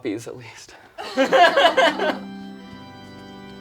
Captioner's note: people laugh; somber organ music